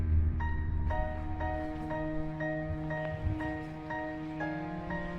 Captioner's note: gentle music; wind whistling